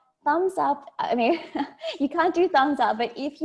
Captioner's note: laughs